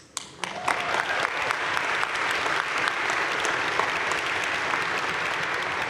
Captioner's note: crowd cheering and applauding